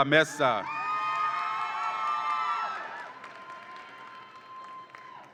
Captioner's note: audience applauds and cheers